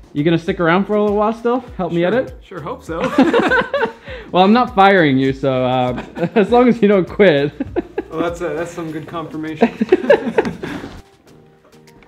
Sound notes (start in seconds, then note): 3.0 laughing; 5.8 laughs